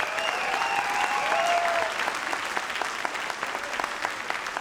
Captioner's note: audience applauds